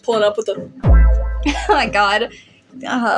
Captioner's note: chuckle